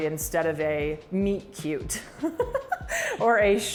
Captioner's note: laughs